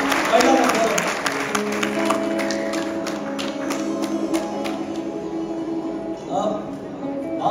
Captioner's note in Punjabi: ਤਾੜੀਆਂ